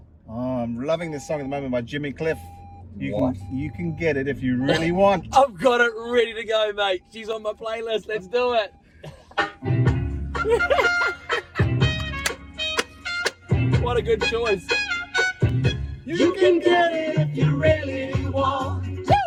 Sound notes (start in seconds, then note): 10.4 laughs; 11.9 claps